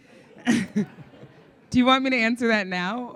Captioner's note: audience laughing